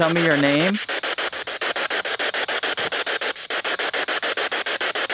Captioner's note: static pulsing